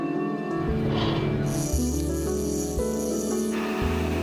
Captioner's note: bell ringing; line whirring; drilling